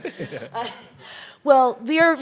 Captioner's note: chuckles